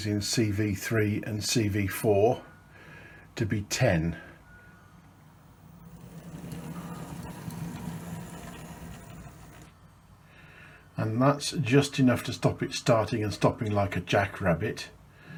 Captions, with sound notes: in CV three and CV four to be ten. (whirring) And that's just enough to stop it starting and stopping like a jack rabbit.